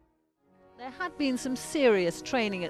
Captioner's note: voiceover